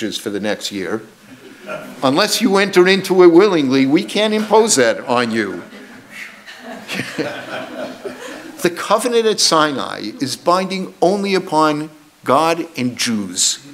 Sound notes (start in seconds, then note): 1.3 audience laughs; 7.0 audience laughs